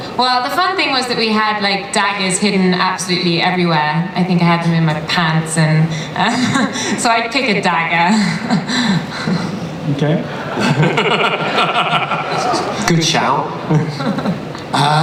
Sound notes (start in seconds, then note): 6.1 laughs; 8.7 laughs